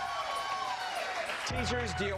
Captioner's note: cheers and applause